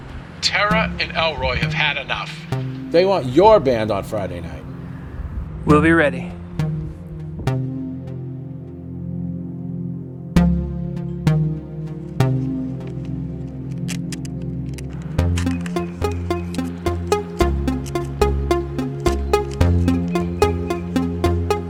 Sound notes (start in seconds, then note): 8.2 pensive synth music; 14.1 tape rips; 17.4 pensive synth music continues